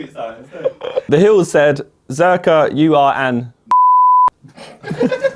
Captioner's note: beep; laughs; audience laughs